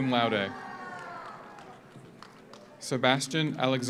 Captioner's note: audience cheers; audience applauds